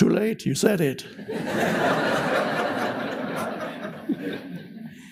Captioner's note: audience laughs